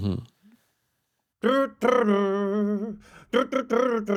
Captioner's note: imitates music